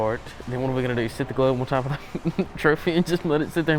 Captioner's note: laughs